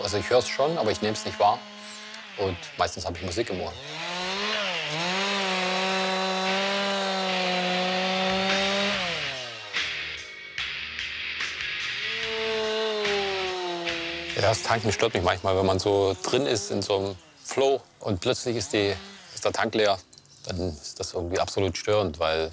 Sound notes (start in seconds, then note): 7.4 dull rock sounds; 12.6 chainsaw noises